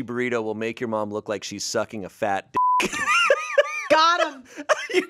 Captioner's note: beep; laughs